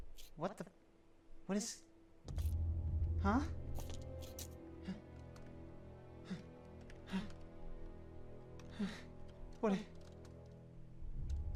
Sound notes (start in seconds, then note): 4.7 panic Noises